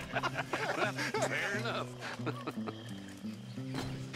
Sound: laughs with the others; laughs

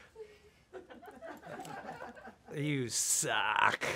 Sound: everyone laughing

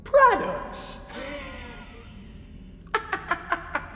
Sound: Uncle Wiley laughs

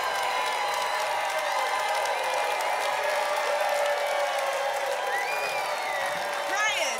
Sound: applause continues

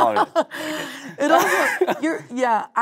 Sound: both laughing

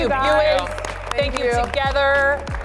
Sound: audience clapping

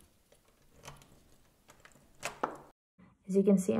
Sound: door opening

